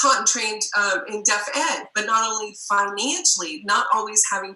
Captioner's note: murmur